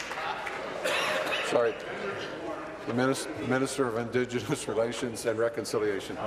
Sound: applause

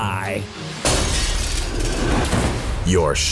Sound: glass crashes

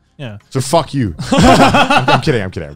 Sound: everyone laughs

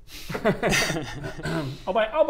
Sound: laughs at f

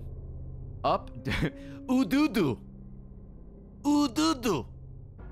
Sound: laughs

